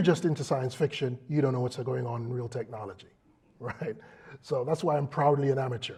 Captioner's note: laugh